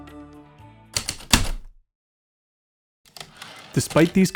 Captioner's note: typewriter keystrokes, return slide